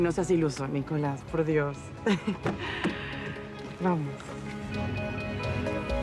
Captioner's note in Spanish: Ríe